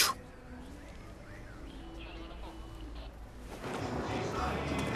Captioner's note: police radio chatter